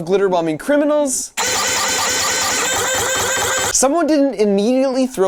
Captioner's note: machine spray noise